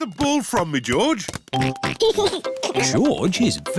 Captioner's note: oinks and giggles